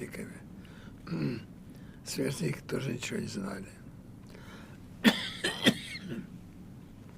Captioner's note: clears throat; coughing